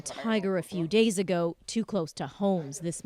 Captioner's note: speaking Foreign Language